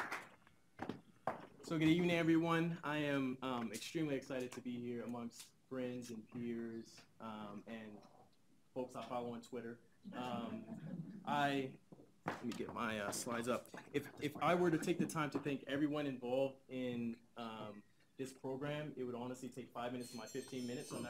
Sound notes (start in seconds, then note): 10.2 audience laughs